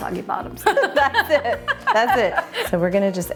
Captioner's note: laughing